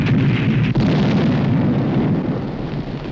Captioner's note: explosion